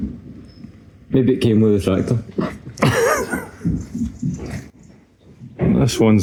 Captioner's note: laughter